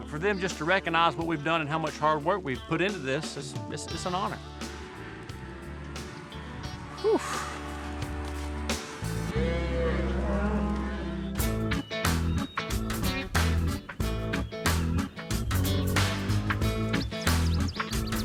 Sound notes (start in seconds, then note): 9.0 cattle moo; 18.0 birds chirping